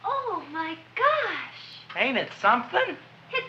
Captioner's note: none